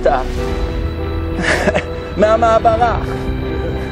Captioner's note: giggle